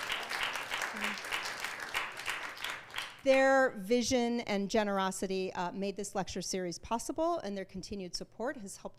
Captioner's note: applause